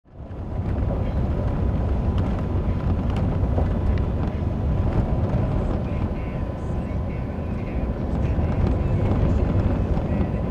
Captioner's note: driving down gravel road